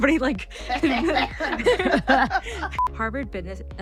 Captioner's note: all laughing